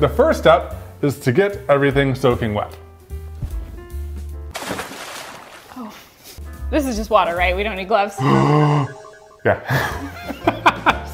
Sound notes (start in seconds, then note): 4.5 water splashing; 8.2 exaggerated gasping